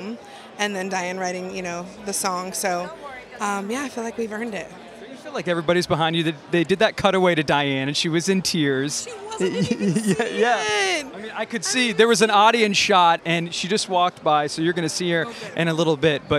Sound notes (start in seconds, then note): 9.4 chuckling